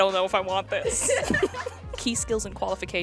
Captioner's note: girls laughing